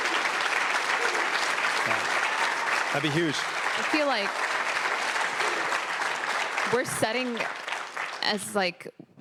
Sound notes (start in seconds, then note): 0.0 cheers; 2.1 applause